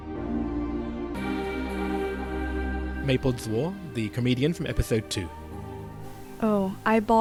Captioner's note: voiceover